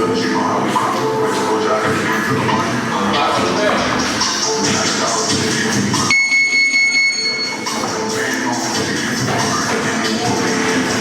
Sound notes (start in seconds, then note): 6.1 bell ringing; 8.1 hip hop music